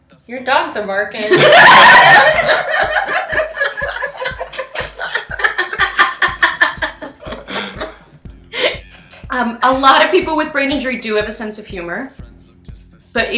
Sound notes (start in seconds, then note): 2.9 laughing